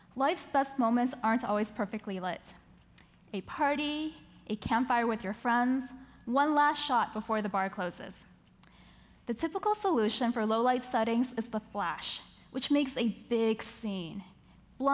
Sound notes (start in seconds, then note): none